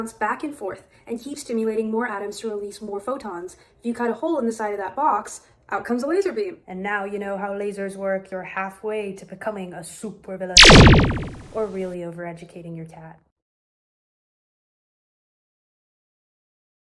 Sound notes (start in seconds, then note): 10.5 laser zaps